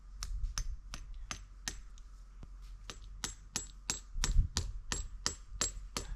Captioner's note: hammer tapping; hammer tapping